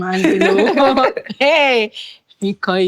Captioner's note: laughing